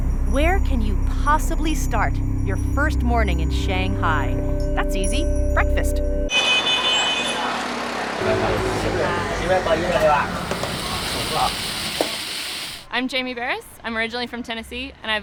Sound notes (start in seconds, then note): 6.3 horns honking; 10.8 sizzling